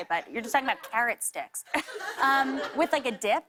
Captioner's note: laughter